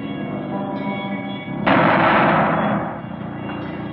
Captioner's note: banging